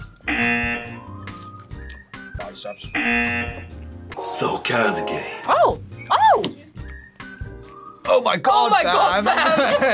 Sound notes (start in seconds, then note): 0.3 buzzer; 2.9 buzzer; 9.2 both laugh